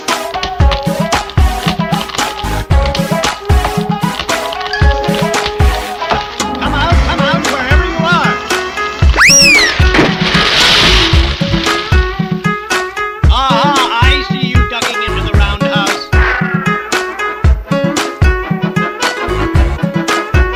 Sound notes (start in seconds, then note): 8.2 tower starts to crash down; 9.8 crash!